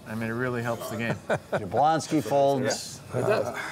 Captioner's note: laughing